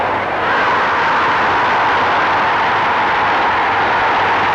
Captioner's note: crowd roaring